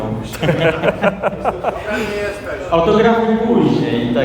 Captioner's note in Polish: śmiech